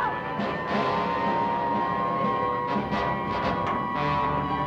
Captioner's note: sirens blaring